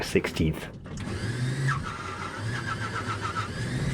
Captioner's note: plane engine rattling